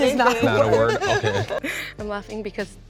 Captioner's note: laughs